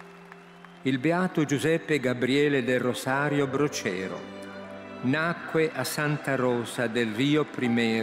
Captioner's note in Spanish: Voz de hombre hablando en italiano